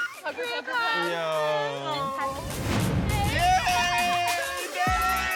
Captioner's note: indistinct chatter